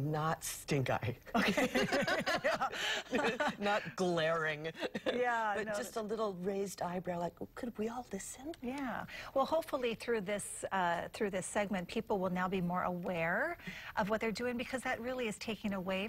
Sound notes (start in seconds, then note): 8.5 laughter